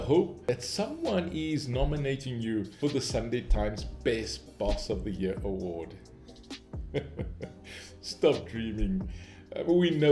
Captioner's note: chuckles